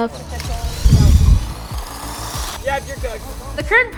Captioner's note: remote controlled car whirring